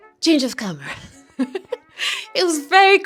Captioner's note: laughs